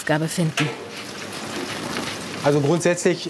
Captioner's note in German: Brutzeln